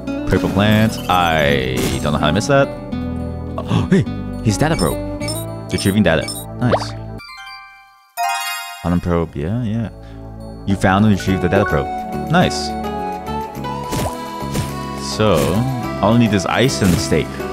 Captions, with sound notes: Purple plant-I don't know how I missed that. *gasp* hey! His data probe! "Retrieving data." Nice. Data probe, yeah, yeah... "You found and retrieved the data probe." Nice! So, all I need is ice and steak.